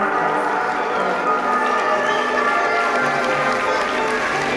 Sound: crowd cheering

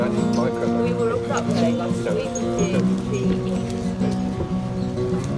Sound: distant talking

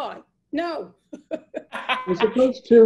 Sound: laughs

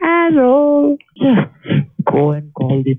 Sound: snorts

